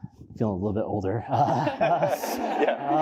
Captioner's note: laughter